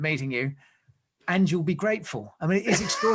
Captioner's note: laughs